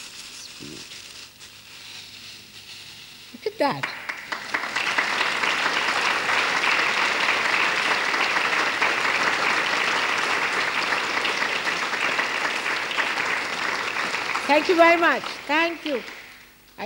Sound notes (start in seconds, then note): 7.1 applause